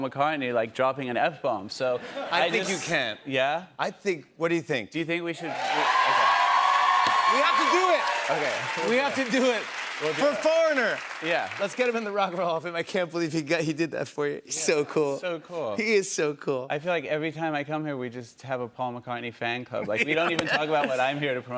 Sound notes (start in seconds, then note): 5.4 cheers and applause